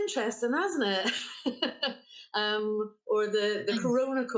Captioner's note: laughing